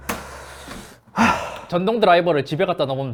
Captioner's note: sighs